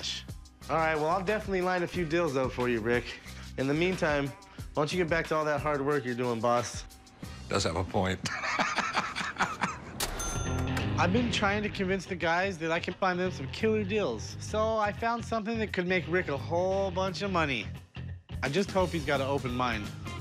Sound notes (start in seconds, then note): 8.2 laughter